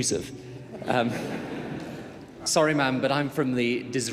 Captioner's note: audience laughing